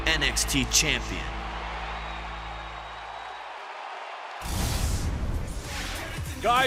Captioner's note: cheers and applause